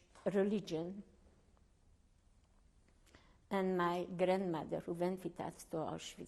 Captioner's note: pauses for 3 seconds